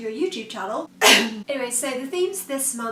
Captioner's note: coughs guiltily